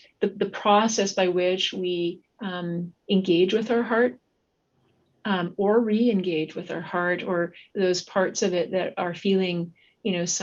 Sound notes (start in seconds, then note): none